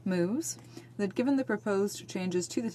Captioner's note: speaking French